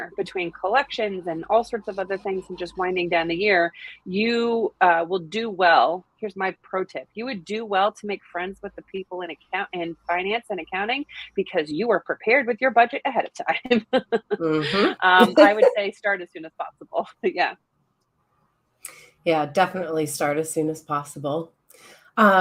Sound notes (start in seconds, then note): 13.6 laughs